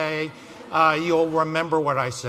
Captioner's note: laughs